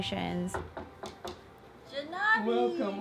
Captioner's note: female knocks on door